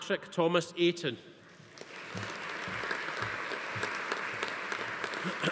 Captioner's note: audience applauding